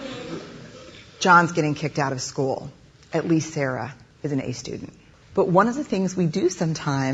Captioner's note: laughter